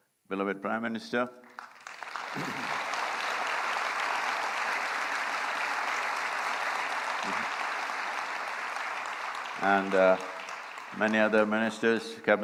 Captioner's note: applause